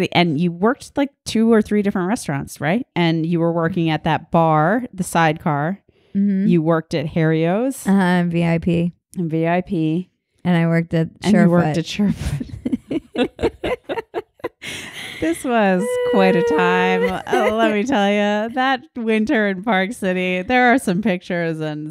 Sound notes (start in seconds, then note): 12.1 laughing